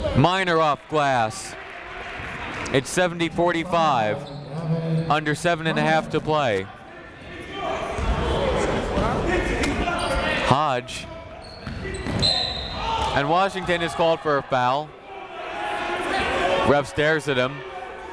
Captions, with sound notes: Miner off glass. It's 70 45. Under seven and a half to play. (chatter) Hodge. (whistle) And Washington is called for a foul. Ref stares at him.